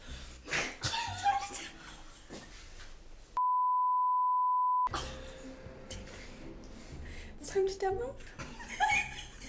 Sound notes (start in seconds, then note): 3.4 recording beeps